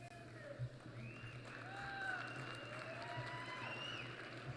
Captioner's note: applause